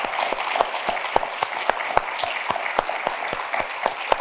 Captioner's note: applause